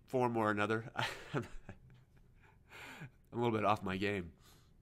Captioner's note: laughing